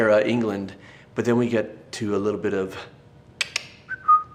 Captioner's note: tsks, whistles